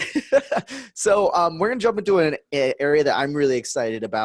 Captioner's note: laughs